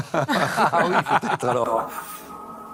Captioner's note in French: rires